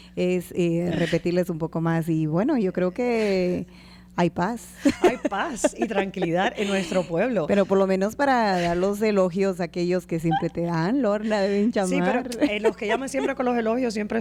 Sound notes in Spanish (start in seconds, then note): 4.8 Risas